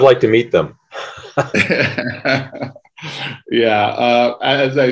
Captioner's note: laughs